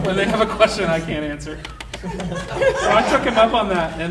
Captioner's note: audience laughing